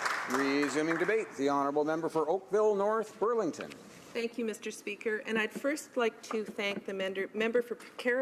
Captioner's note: applause